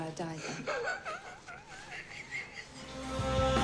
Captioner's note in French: des rires